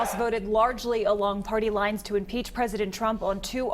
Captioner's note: cheers